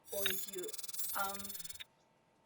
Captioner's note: computer Glitch Sounds